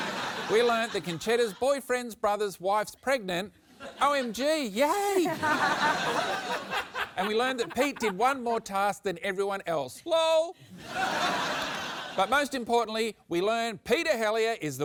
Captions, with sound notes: We learned that Concetta's boyfriend's brother's wife's pregnant. OMG! Yay! (LAUGHTER) And we learned that Pete did one more task than everyone else. Lol! (LAUGHTER) But most importantly, we learned Peter Helliar is the winner